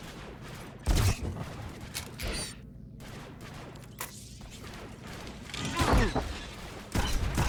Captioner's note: gunshots; gunshots